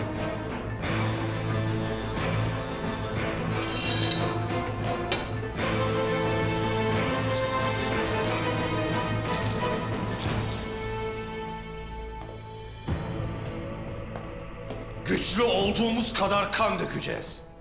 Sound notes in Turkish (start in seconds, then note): 0.0 Müzik - Gerilim; 3.5 Kılıç sesi; 5.0 Müzik - Gerilim